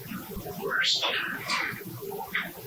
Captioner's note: eerie voice